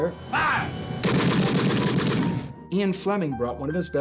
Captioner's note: gunfire